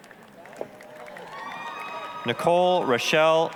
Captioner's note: applause, cheering